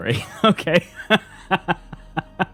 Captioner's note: laughs